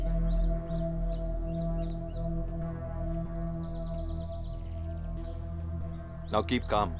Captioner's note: Footsteps